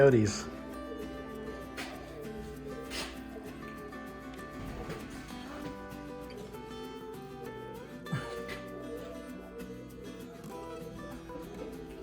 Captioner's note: dog howling continues